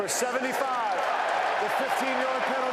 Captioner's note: cheering